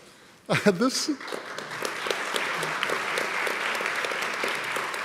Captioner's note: audience clapping